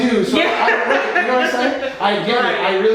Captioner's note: laughing